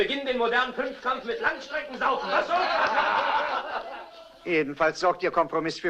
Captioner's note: men laughing